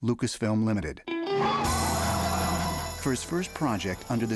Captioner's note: tires Squealing